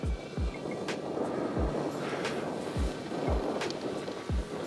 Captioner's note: wind blowing